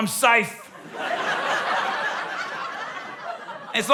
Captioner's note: laughter